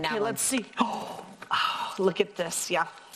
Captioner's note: gasps